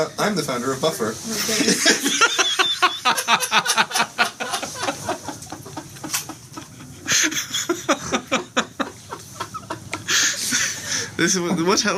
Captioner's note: laughter